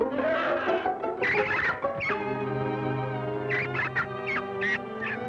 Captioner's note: squeaking